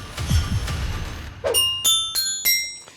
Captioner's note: ding dong!